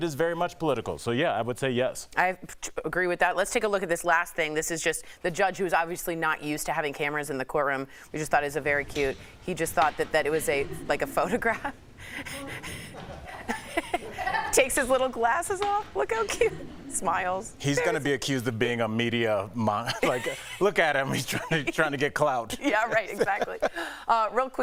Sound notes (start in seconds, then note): 15.7 laughter